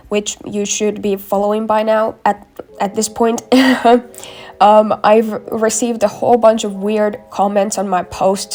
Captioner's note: chuckle